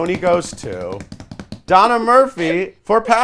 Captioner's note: beats couch